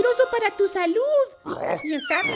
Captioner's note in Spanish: Gruñido